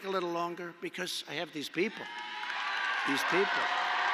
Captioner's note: applause